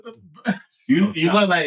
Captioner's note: laughing